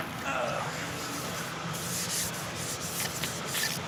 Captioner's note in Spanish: gruñidos